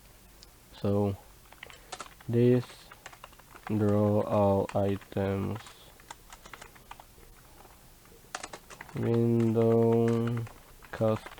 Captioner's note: more code typing